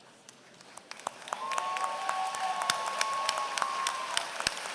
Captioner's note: applause